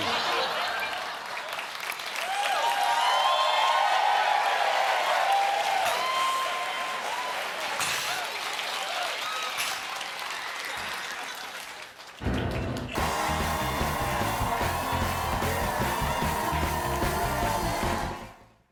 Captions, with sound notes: IT'S SO WINDY! IT'S SO WINDY." ( CHEERS AND APPLAUSE ) ( LAUGHTER )